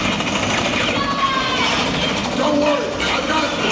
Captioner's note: character yelling